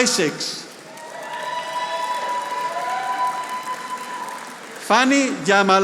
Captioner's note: audience applauding